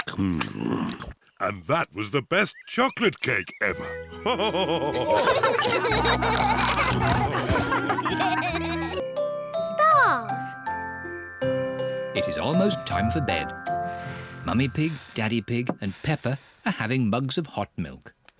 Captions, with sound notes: Hmm! And that was the best chocolate cake ever! (ALL LAUGHING) Mummy Pig, Daddy Pig and Peppa are having mugs of hot milk.